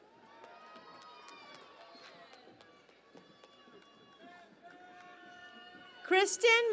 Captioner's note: cheering and Applause